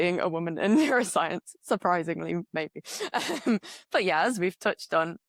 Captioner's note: laughs